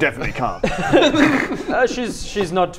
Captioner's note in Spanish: risas